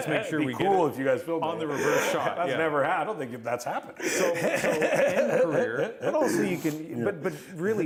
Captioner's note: laughter